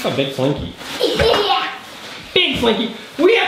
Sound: laughing

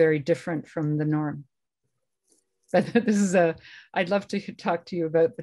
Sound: laughter

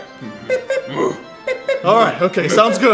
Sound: beep beep; grunts

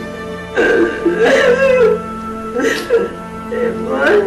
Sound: Celia crying

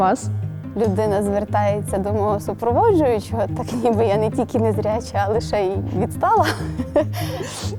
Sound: laughs

